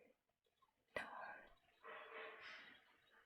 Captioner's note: whispers